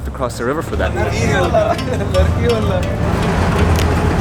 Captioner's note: foreign language